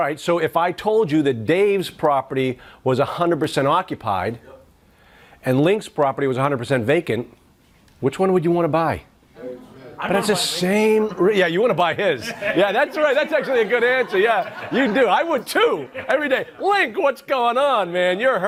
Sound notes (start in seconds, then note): 9.4 audience murmuring; 12.0 laughs; 15.5 audience laughs